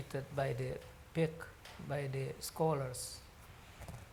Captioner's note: speaks foreign language